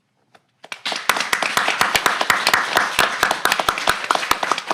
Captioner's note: audience clapping